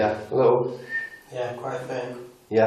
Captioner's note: whistling